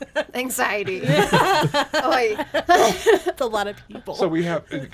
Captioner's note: laughs